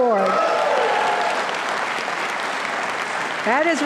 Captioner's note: audience applauding